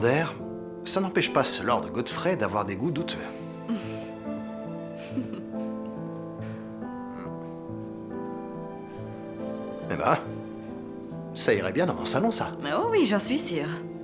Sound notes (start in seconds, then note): 3.5 small laugh